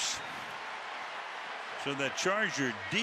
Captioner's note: cheering